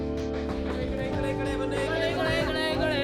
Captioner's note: mixed chatter